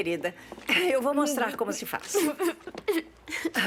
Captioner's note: laughing